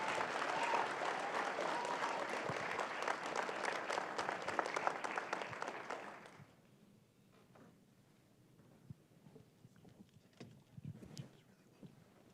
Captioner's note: applause